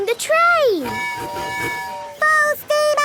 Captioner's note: tooting